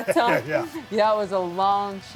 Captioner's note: Steve laughing